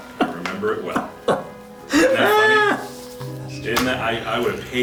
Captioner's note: voiceover; laughter